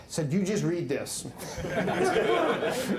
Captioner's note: laughter